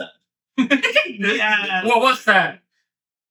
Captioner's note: laughing